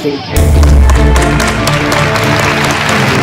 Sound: all clapping

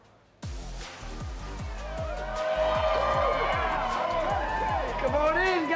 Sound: cheering

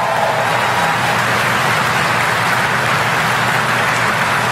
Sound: applause

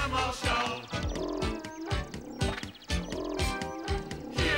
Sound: animal noises

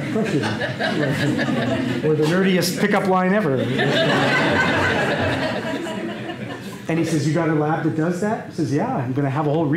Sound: laughter

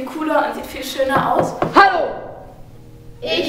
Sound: knocks

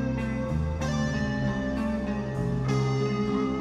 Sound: tesla coil

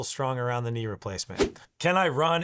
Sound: air whooshes

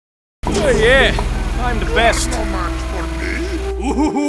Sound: yawn

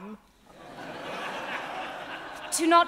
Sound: audience laughing

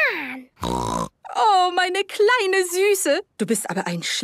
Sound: snorting; speaking German

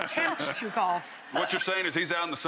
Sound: laughter

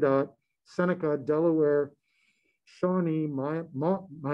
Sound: murmurs

